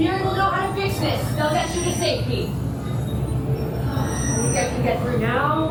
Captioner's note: crowd conversing